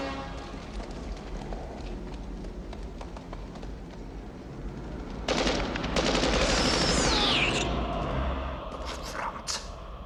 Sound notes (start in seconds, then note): 5.2 gunfire